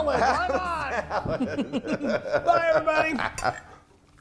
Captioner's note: laugh